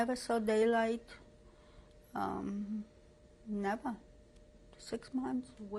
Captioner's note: pauses for 3 seconds